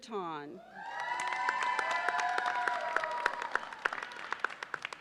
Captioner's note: audience cheers and applauds